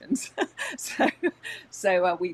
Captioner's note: laughs